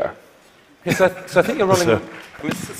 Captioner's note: applause